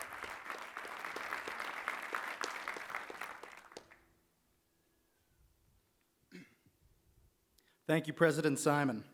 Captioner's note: applause